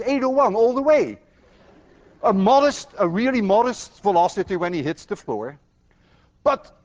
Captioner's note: class laughs